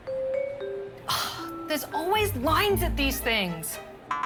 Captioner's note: sighs